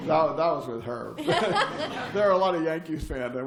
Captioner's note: laughter